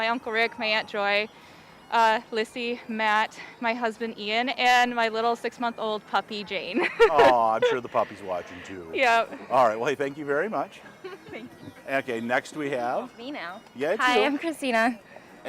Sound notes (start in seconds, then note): 6.7 laughing